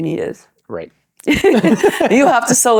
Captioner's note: laughing